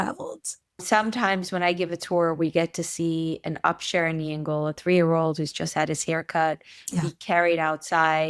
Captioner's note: Yiddish